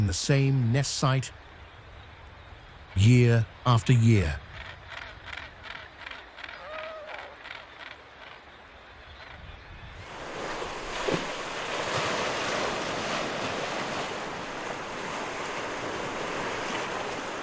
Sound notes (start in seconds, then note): 6.4 crow cawing; 12.9 birds chirping